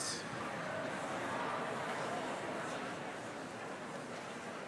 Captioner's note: audience chattering